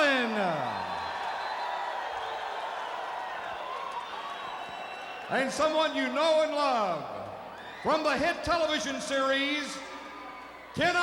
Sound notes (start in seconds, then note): 0.0 crowd applauding; 0.5 crowd cheering